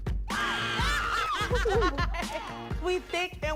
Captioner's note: woman screams; laughs